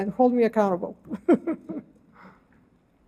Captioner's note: laughter